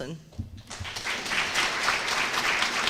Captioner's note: applause